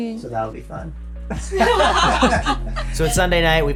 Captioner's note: laughing